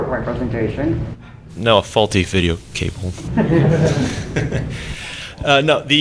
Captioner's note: laughter